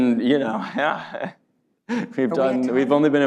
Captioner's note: laughs